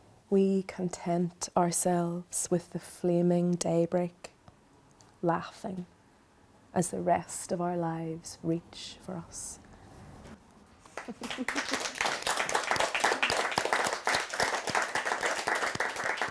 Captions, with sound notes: We content ourselves with the flaming daybreak laughing as the rest of our lives reach for us." (crowd applauding)